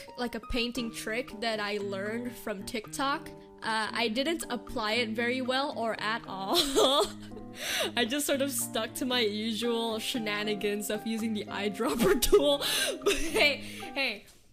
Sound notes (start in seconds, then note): 12.1 laughs